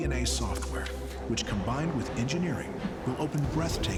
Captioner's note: wings flapping